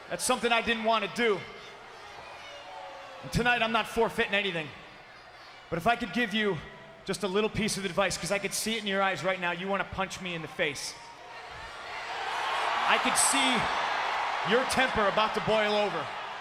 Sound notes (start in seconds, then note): 11.5 crowd cheers